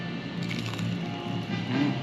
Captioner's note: crunch!